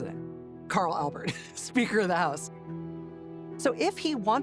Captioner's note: laughing